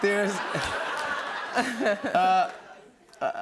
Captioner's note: laughter